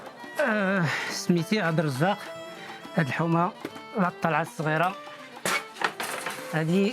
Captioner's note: speaking Arabic